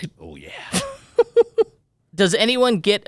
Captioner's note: laughs